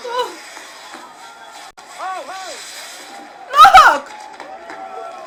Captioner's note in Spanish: Aplausos